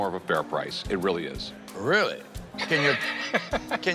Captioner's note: laughs